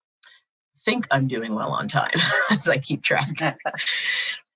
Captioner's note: chuckles